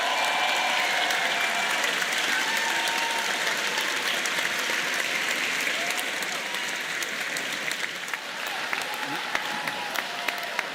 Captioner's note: cheers and applause